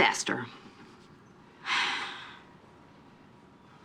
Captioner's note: sighs